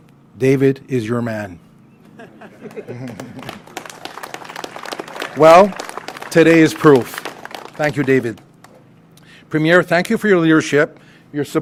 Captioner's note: applause